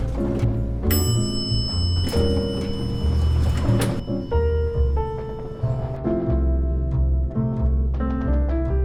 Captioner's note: the lift dings, and doors clang open